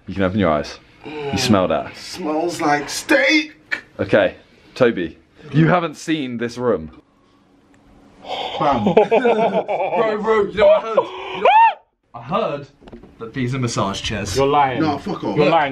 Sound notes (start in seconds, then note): 8.4 laughing